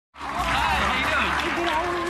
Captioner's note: crowd applauds